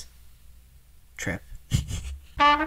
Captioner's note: laughter; hold music